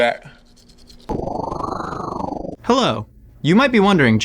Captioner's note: wind whirling